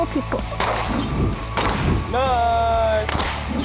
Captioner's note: gun popping